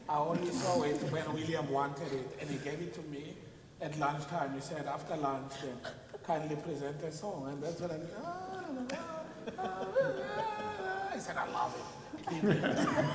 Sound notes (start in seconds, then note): 8.4 people laughing; 11.3 humming